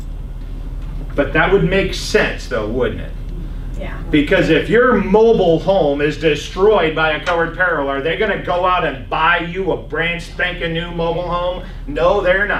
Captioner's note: laughs